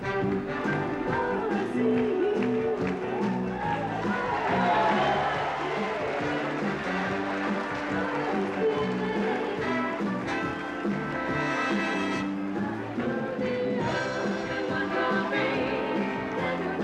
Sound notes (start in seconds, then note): 4.3 audience applauding